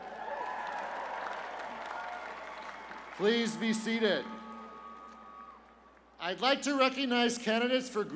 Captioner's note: cheers and applause